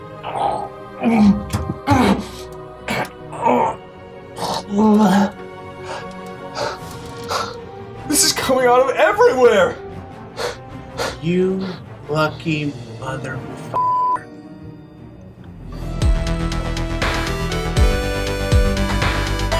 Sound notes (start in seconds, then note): 1.0 gag; 4.3 gag; 7.1 pant; 10.3 pant; 13.7 beep